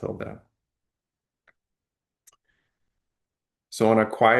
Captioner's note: pause